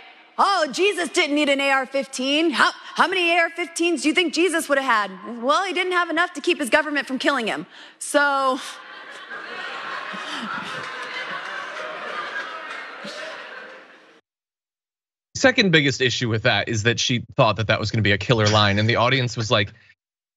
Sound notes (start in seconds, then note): 11.5 laugh